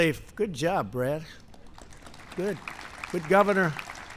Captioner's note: applause